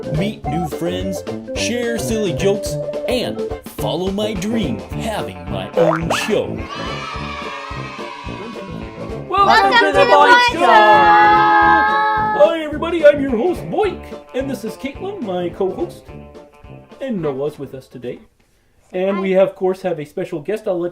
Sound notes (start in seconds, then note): 6.3 kids cheering